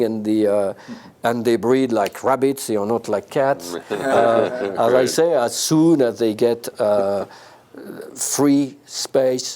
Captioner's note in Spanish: risas